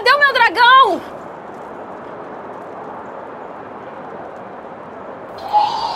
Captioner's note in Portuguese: som de vento soprando